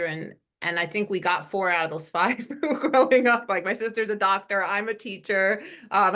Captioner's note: laugh